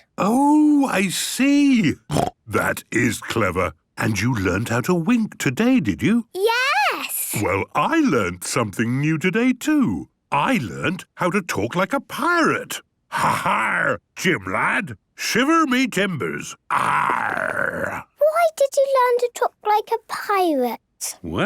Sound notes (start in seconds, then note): 2.1 snort; 13.2 menacing voice; 16.7 he growls